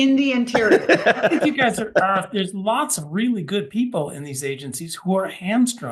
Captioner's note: cough